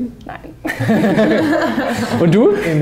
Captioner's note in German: Lachen